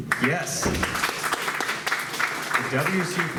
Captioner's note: applause